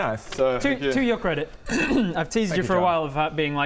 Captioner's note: chokes